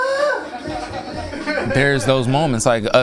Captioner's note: laughing